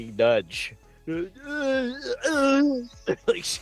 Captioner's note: grunting